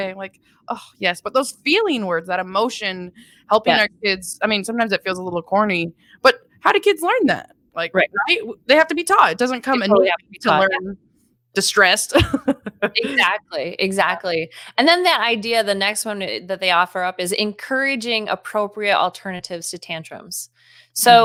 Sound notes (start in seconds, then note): 12.1 laughing